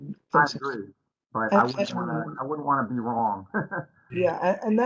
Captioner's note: laughter